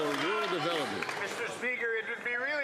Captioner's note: some Applause